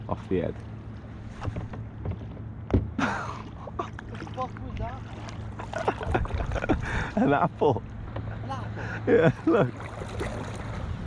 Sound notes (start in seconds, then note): 3.0 laughing; 5.6 laughing